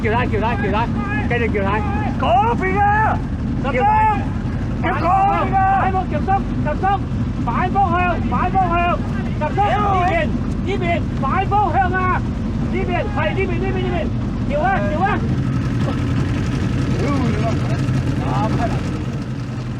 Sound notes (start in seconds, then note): 9.9 exclamation